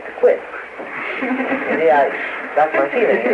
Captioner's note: laughter